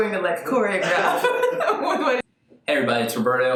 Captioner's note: laughs